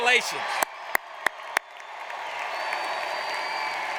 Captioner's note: audience cheers